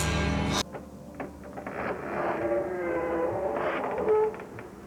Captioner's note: creaking